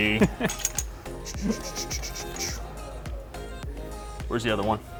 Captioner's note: imitates air hissing; videographer chuckles